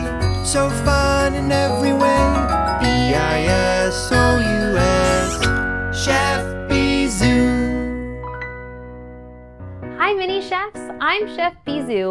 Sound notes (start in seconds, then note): 5.0 kiss sound